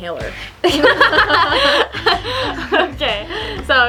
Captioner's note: laughing